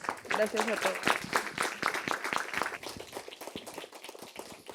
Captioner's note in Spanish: aplausos